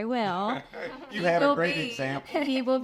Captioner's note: group laughs